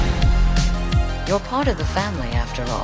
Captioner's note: explosion roaring